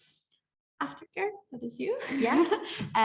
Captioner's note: laughs